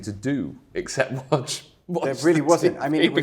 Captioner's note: laughing